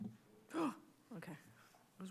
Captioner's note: gasps